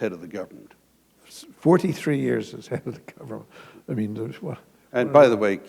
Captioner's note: chuckle